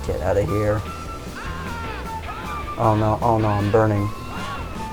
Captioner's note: ahhhhhhhhhhhh